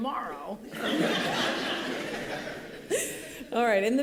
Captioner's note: laughter